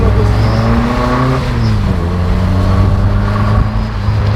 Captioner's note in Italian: sound aspirazione motore